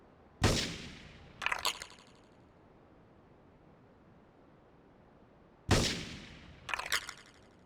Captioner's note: gun firing